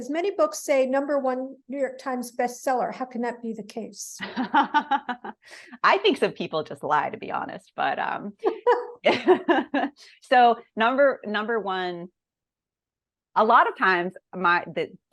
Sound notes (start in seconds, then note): 4.3 laughs